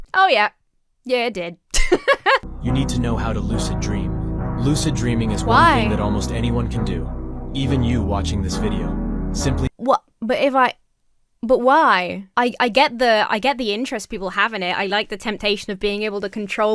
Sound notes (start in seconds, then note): 1.7 laughs